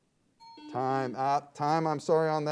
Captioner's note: buzzer beeps; timer bell dings